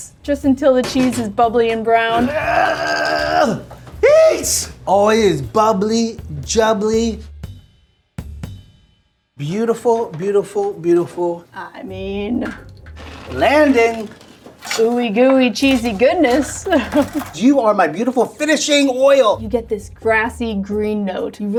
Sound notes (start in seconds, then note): 2.1 grunting; 16.6 laughs